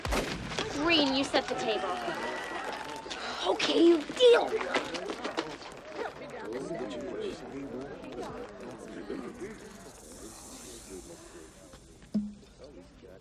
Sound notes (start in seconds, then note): 0.0 gun firing distantly; 2.5 crowd cheering distantly; 6.6 crowd chattering distantly